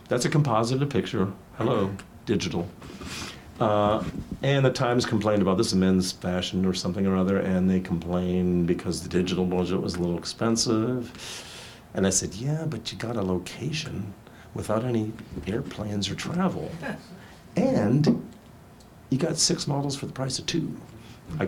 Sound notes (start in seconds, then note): 16.7 woman chuckles